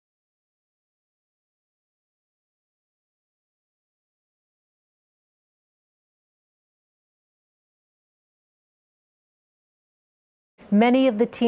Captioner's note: silence